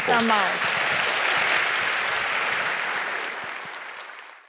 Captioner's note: applause